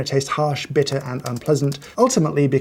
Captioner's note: ominous typing